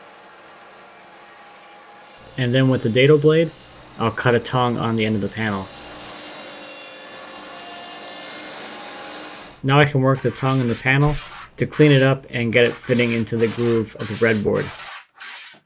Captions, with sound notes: and then with the data blade, I'll cut a tongue on the end of the panel. (machine whirs) Now I can work the tongue in the panel to clean it up and get it fitting into the groove of the red board.